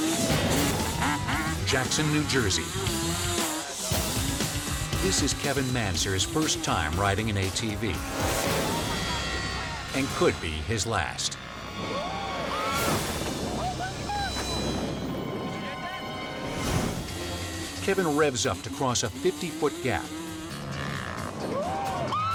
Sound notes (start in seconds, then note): 12.3 bike slams; 13.5 onlooker screams